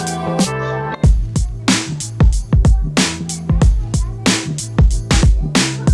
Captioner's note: laughs